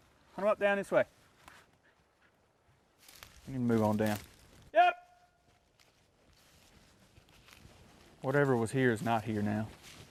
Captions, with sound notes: Come on up down this way. We'll move on down. (shout in distance) Whatever was here is not here now.